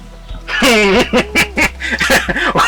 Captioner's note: Kamali laughing outloud